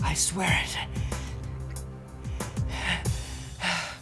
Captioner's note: panting